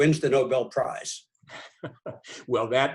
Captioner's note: laughs